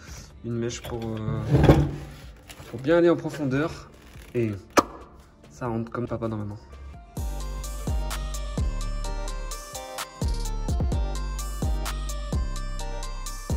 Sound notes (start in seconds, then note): 4.8 pop